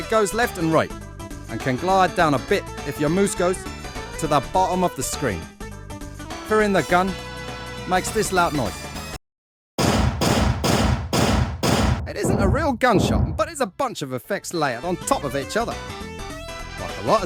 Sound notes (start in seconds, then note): 9.8 gunshots